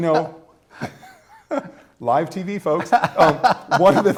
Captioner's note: laughter